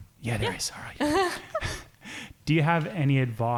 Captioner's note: chuckles